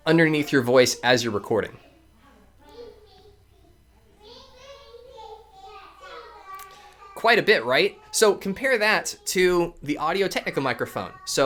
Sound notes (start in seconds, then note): 2.9 children talking and yelling